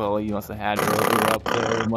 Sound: snoring very peacefully

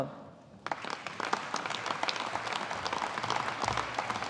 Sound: audience applauding

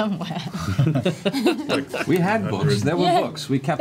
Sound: all laugh

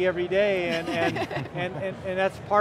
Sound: laughs

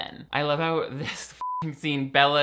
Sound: beep

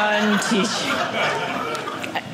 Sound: audience laughing

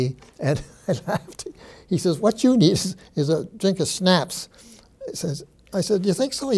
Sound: chuckling

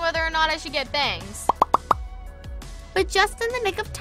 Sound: popping

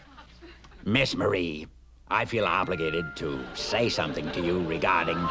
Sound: rockefeller voice

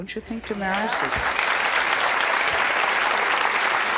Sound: applauding

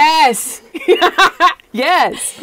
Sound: laughter

